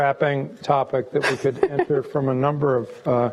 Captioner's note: laughs